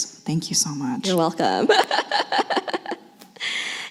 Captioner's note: laughs